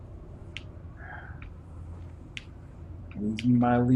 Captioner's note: sighs